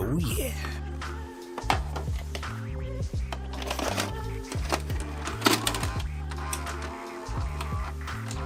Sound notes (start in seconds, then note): 1.5 clicks; 1.5 whirrs